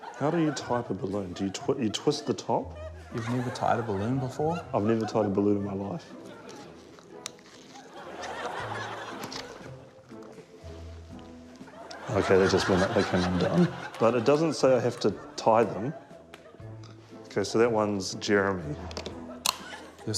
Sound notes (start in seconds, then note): 6.9 rubber stretches, snaps; 19.4 tape snaps